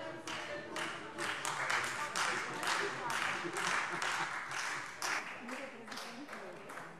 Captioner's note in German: Beifall Freie Demokraten